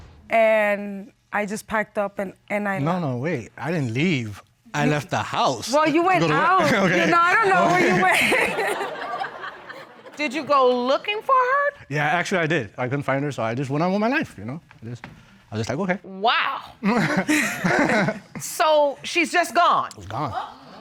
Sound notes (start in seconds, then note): 6.3 chuckles; 8.5 laughs; 8.9 audience laughs; 16.8 chuckling